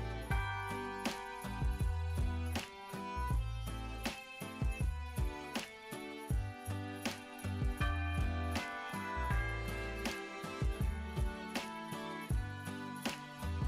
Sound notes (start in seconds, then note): 0.3 slow beat music; 7.8 bells ringing; 10.6 slow beat music